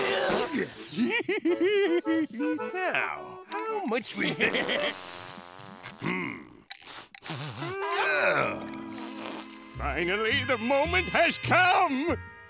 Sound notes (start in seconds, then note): 0.1 laughing; 4.2 Plankton laughing; 6.8 sniffing